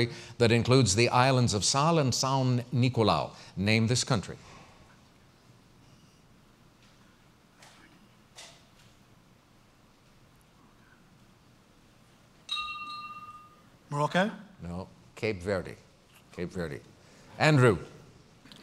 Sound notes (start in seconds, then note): 4.3 pause